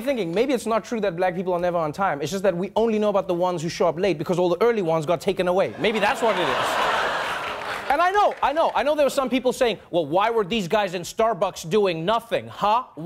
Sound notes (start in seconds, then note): 5.7 audience laughing